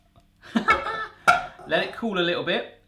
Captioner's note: laughing